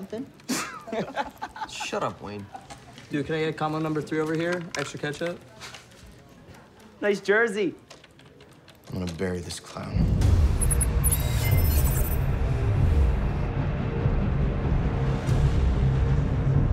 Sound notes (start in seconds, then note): 0.5 laughing; 10.2 low thudding; 10.6 readout sliding and beeping; 12.4 ominous orchestral music